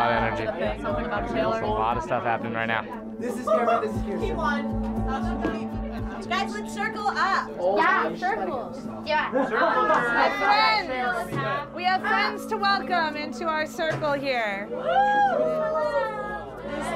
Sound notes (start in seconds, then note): 3.6 students rehearsing; 9.2 students chatting; 14.7 cheering